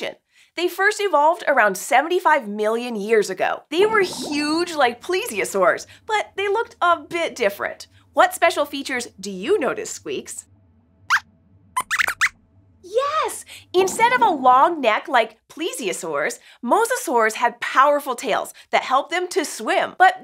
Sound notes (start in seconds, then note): 11.7 squeaks squeaks